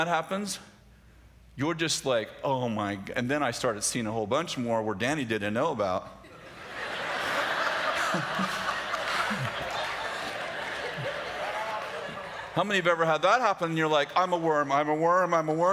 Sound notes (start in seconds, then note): 6.2 laughter